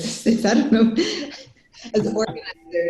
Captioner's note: laughs